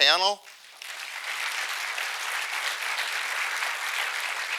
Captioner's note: audience applauding